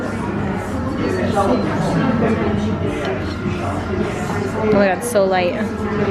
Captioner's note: people chattering